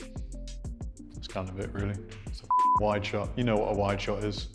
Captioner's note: beep